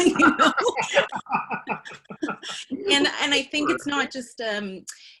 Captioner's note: laughter